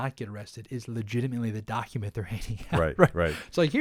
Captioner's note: laughs